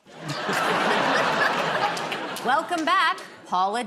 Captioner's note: laughter